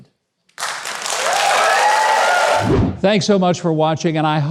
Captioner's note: audience applauding